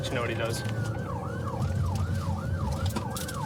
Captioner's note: siren blaring